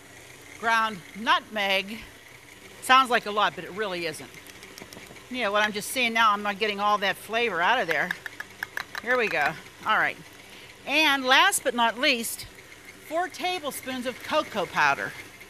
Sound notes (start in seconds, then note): 8.4 jars tap